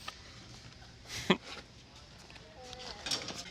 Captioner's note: chuckles